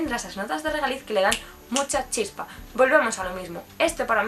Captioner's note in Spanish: chasqueando los dedos